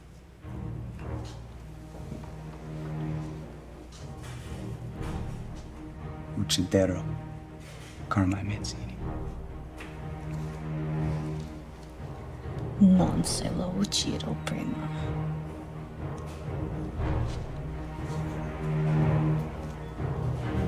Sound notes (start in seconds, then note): 1.5 tense music; 6.6 Benny speaking in Italian; 13.1 Taffy speaking in Italian; 17.9 tense music